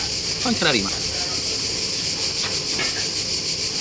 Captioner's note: in Italian